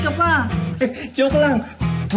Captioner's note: chuckles